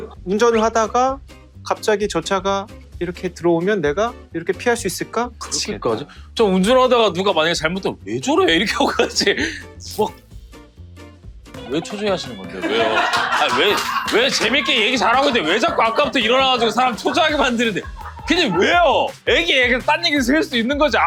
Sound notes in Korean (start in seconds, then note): 13.6 웃음